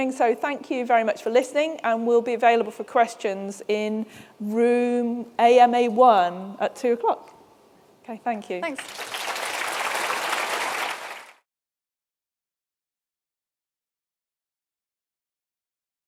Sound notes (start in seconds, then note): 8.6 applause